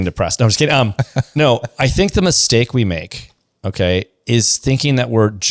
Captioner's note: laughs